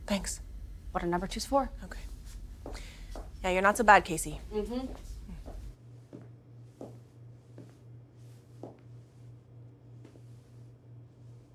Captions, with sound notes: - Thanks. - What are number twos for? - Okay. Yeah you're not so bad, Casey. - Mm-hm. (footsteps clacking)